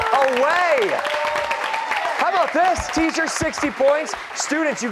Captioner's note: cheers and applause